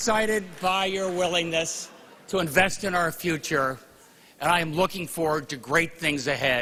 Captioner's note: laughter